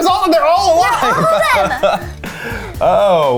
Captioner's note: chuckles